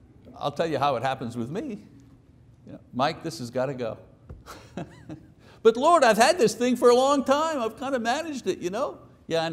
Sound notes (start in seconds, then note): 4.4 chuckles